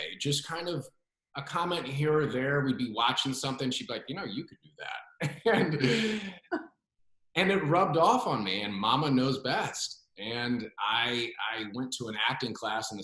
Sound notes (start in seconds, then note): 5.3 laughs